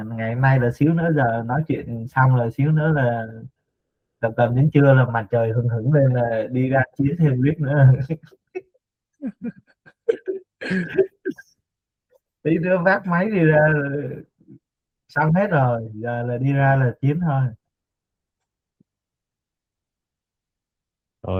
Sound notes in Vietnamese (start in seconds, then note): 9.2 tiếng cười